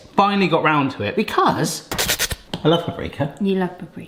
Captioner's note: mimics Hannibal Lecter hiss